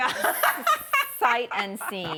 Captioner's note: laughing